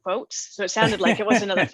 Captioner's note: laughing